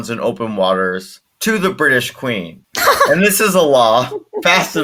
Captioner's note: laughter